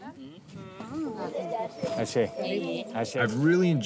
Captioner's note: both speaking in native language